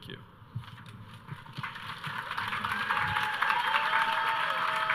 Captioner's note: audience cheering